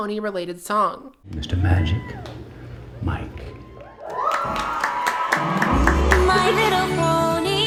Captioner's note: applause, both from the movie and the straights